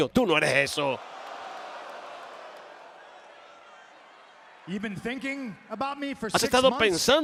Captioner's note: applause